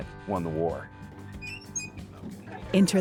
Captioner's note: door creaks